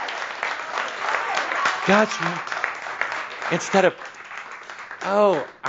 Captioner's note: audience applause